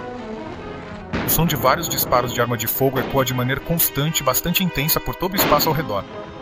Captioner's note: gunshots